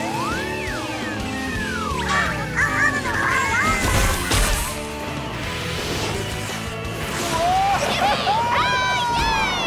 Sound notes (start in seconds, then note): 1.8 squeaking; 7.3 cheering